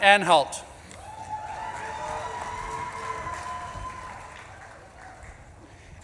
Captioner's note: audience claps and cheers